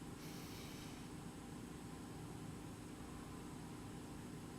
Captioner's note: breathing deeply